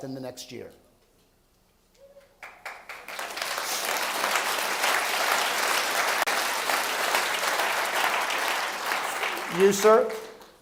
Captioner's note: applause